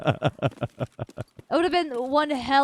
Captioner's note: laughing